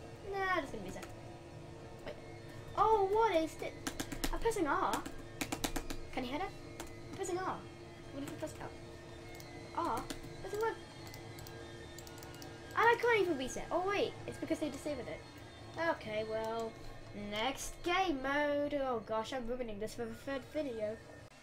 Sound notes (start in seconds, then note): 5.3 spamming R key; 11.9 clicking